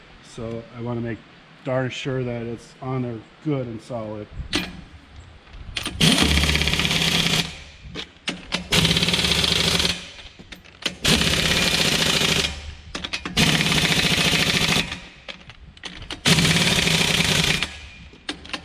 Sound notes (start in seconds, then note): 5.8 impact wrench whirring